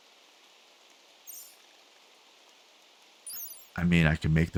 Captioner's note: silence